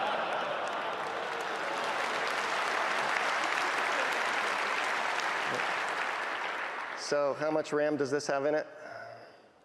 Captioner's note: laughing; applause